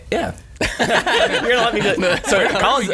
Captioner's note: laughing